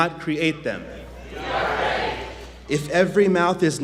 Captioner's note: audience chants "We are ready"